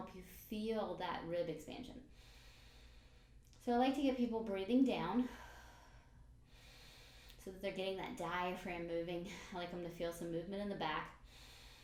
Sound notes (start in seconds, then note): 2.1 breathes in; 6.5 breathes out